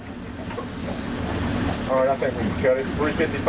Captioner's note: talking